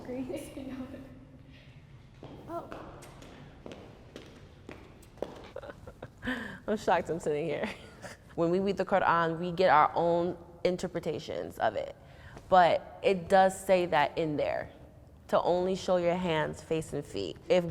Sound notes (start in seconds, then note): 0.9 laughs; 1.8 footsteps approaching; 5.4 laughs